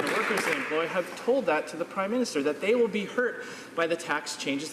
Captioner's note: some Applause